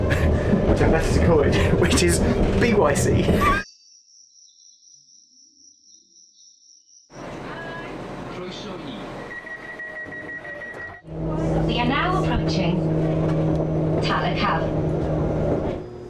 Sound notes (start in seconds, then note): 3.6 crickets chirping; 8.6 doors beeping